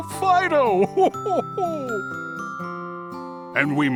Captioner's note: chuckles